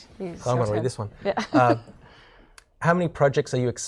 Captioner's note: laughing